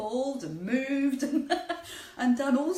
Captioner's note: laughs